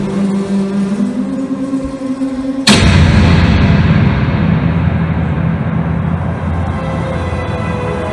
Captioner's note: heat, heat, heat, sound of gunshot